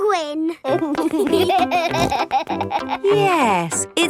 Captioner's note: laughing